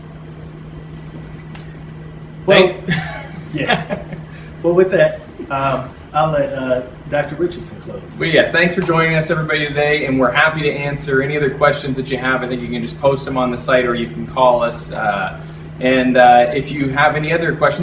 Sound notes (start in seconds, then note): 2.8 laughs